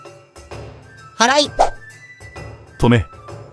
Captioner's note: sweeping